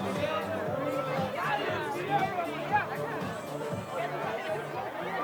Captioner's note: crowd chattering